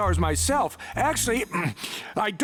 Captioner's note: clears throat